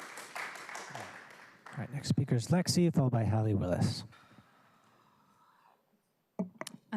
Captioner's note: applause